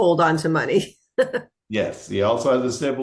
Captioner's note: chuckles